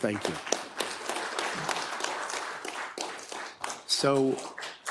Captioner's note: attendees applauding